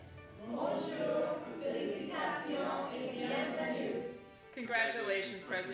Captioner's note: students speak foreign language